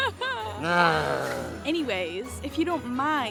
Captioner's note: Longbutt grumbles